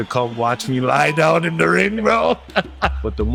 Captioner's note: laughs